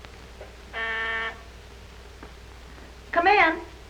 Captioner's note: doorbell buzzing